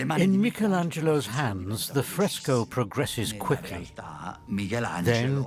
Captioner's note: in Italian